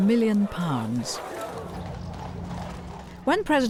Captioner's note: horse hooves clopping